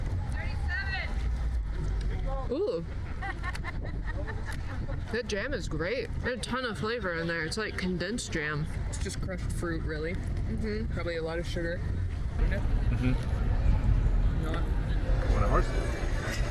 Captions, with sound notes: 37. Ooh. (laughing) That jam is great. There's a ton of flavor in there. It's like condensed jam. It's just crushed fruit, really. Probably a lot of sugar. Mm-hmm. What a horse.